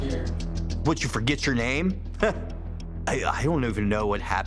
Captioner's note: scoffs